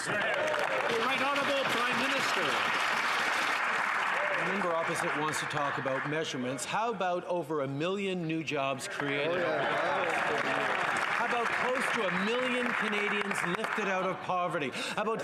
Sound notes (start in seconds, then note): 13.5 some Applause